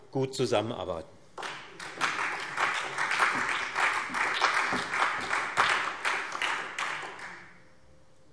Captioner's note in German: Allgemeiner Beifall